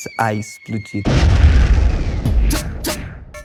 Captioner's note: explosion